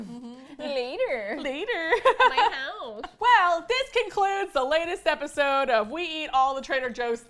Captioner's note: laughs